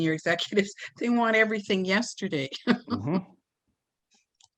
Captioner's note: giggles